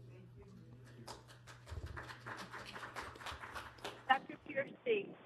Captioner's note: audience applauding